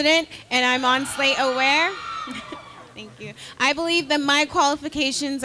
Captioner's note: crowd cheering